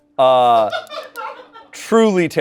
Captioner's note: crew laughs